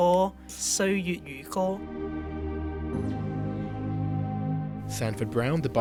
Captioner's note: voiceover